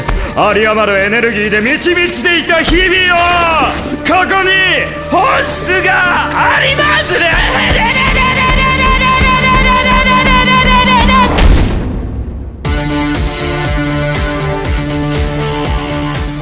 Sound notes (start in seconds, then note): 2.8 fabric tearing; 11.1 thud